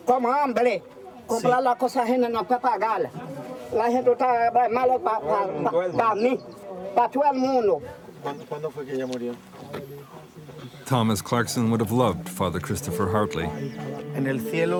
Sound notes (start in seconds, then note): 8.3 Christopher speaking in foreign language